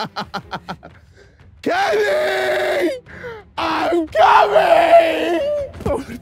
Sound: laughing

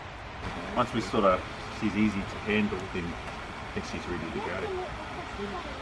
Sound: chatting to each other

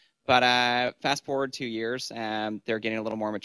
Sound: none

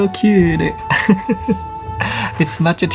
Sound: laughs

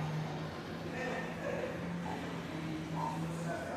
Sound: indistinct chatter

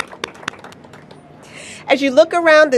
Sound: applause

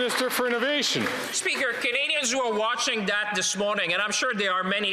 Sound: some Applause

